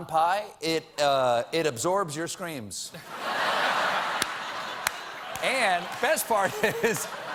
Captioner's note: laughter